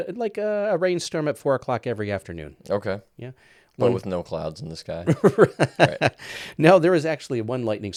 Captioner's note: laughs